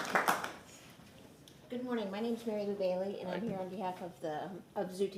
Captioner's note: applause